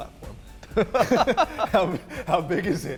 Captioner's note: laughs